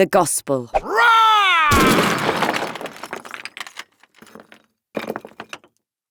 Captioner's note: Paul roaring; wall crashing